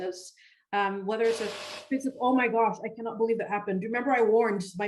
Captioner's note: buzz